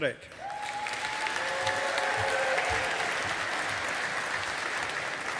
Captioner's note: audience applauding